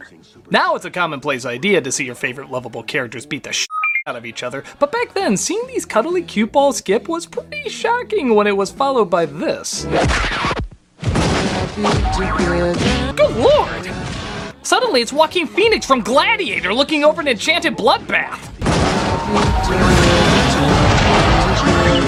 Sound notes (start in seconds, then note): 9.9 kick and record scratch; 10.9 fighting noise while Together keeps playing